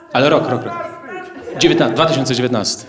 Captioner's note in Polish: głos z widowni; głosy z widowni